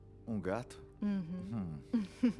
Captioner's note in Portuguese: risos